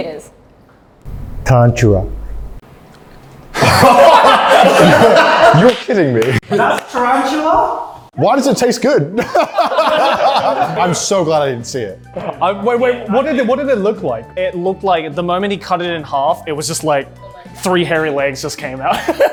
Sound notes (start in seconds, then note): 3.5 everyone laughs